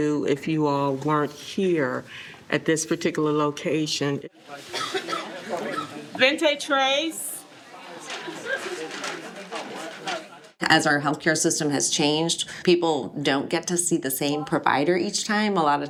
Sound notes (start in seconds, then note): 4.7 woman coughing; 8.1 crowd chattering